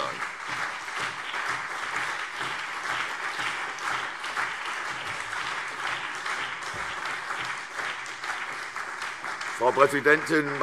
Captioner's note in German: Beifall CDU und BÜNDNIS 90/DIE GRÜNEN